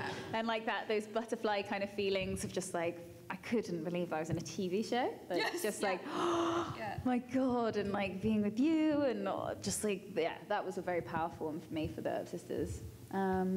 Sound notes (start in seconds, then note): 6.0 gasp